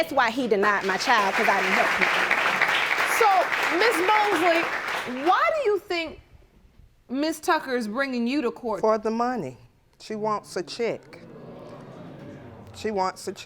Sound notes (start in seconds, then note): 0.0 audience applauding; 5.6 audience exclaiming